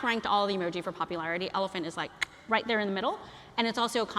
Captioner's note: clicks